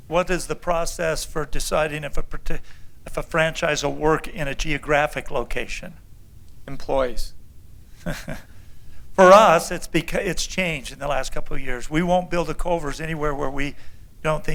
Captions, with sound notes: What is the process for deciding a property if a franchise or work in a geographic location? >> Employees. >> [LAUGHTER] For us it changed in the last couple of years. We won't build a Culver's anywhere where we don't